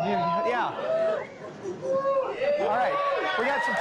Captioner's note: cheering